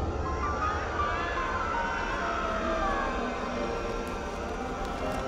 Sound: distant screaming

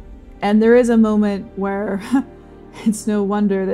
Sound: scoffing

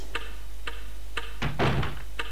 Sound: door closes

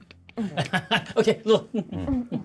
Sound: laughs; coughs

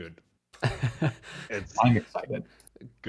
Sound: laughs

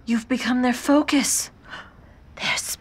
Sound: gasp; whispers

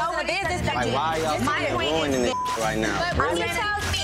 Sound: beep

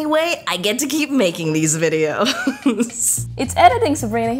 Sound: laughs

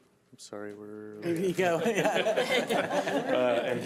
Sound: laughter

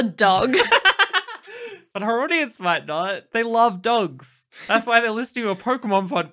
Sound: laughing

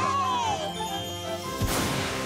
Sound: cheering

